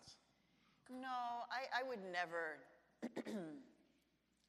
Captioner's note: clears throat